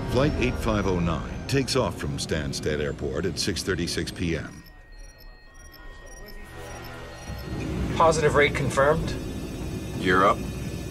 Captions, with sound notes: Flight 8509 takes off from Stansted Airport at 6:36 p.m.. (electronics beeping) (dramatic music) - Positive rate confirmed. - Gear up.